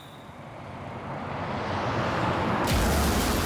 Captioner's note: vehicle approaching; crashes, tire screeching